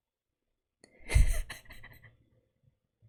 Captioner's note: laughs